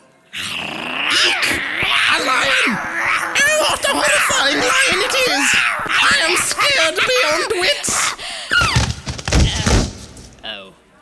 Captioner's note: roaring